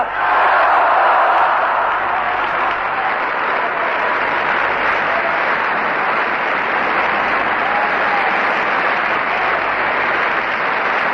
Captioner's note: screams: "Yes", Applause